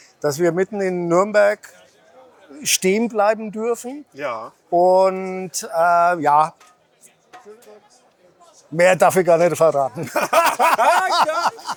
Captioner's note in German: gelächter